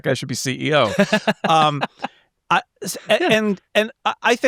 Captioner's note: laughing